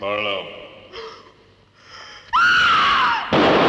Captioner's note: gunshot; scream; gun shot